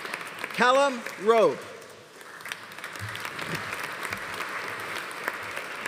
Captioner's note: audience applauding